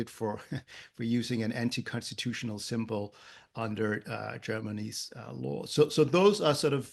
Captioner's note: laugh